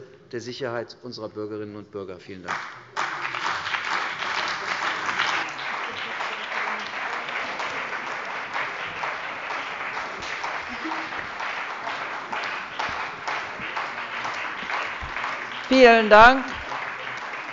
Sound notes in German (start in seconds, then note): 5.8 Beifall bei der CDU und dem BÜNDNIS 90/DIE GRÜNEN